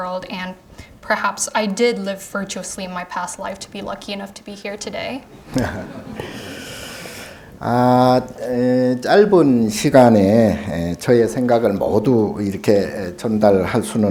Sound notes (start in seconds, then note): 5.3 all chuckling lightly; 8.9 speaking Korean